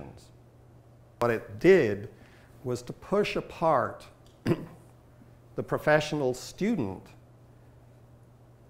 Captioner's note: clears throat